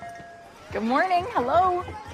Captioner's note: bell ringing